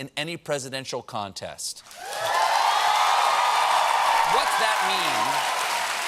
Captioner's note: cheers and applause